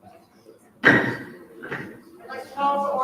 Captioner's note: gavel taps